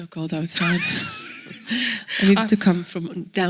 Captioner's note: laughs